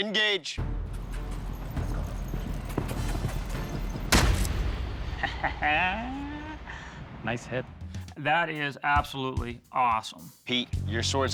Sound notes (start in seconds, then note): 0.6 suspenseful music; 5.1 laughs